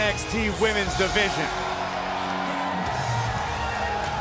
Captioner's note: cheers & applause